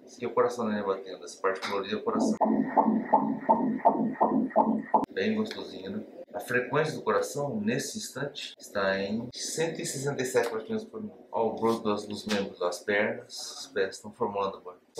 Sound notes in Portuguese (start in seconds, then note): 2.2 batimentos cardíacos